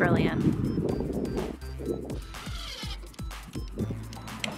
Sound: drilling

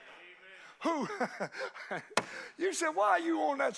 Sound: laughs

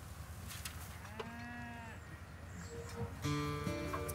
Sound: cows mooing; gentle guitar music

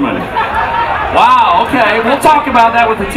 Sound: audience laughs

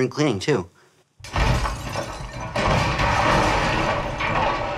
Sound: distant clattering

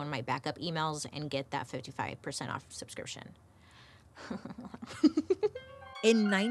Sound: giggles

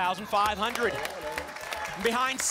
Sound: applause

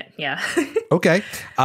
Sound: laughs

